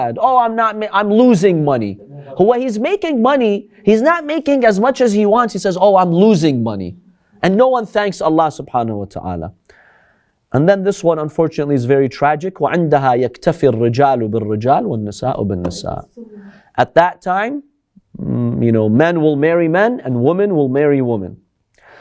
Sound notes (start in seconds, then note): 12.6 Arabic